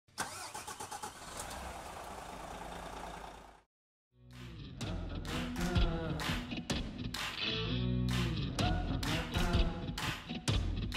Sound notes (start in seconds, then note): 0.2 car engine revving; 4.3 soft rock music